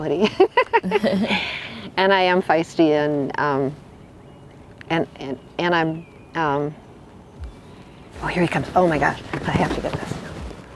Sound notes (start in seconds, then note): 0.2 both laugh; 4.9 stammers